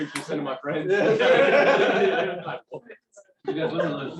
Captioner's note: laughter